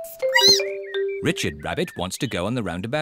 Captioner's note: squeaks